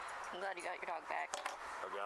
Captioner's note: flick of a lighter